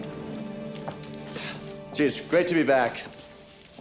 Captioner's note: exhales